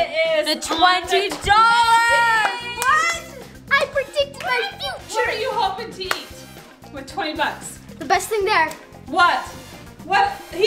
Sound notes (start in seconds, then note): 2.4 yelling